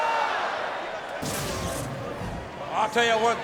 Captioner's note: screen whooshing